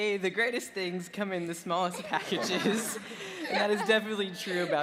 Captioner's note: laughing